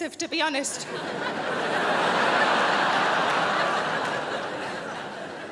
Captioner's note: crowd laughs